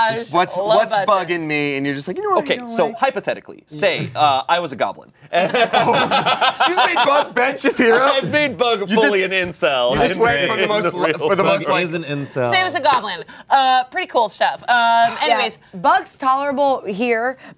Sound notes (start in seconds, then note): 5.4 laughs